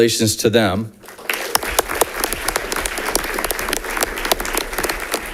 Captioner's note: audience applauding